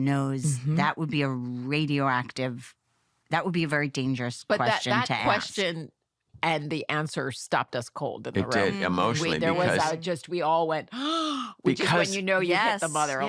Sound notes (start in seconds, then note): 11.0 gasps